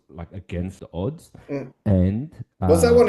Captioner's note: laughs